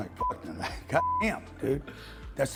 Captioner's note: beep